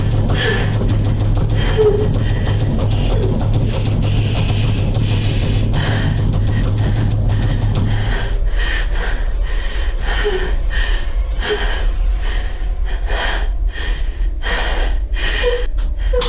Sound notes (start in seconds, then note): 8.1 banging stops